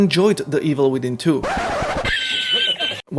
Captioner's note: vinyl scratches